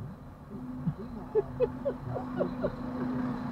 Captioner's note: more giggling